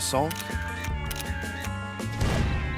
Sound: camera flashing; dramatic music

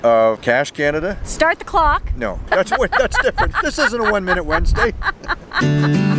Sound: laughing

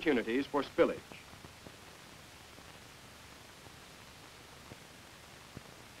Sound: silence

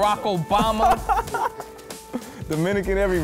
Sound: laughs

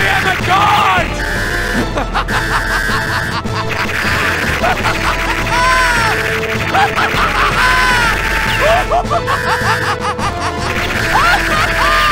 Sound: evil rambling laughter; yet more crazy laughter. When will this end ?!

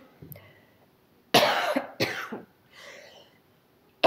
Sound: coughing

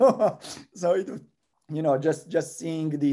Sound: laugh

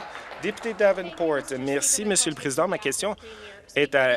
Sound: applause

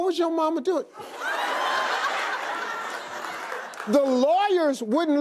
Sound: audience laughing

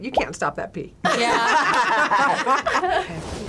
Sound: group laughs

